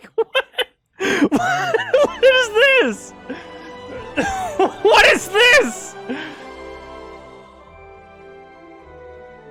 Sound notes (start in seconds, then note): 1.0 laughing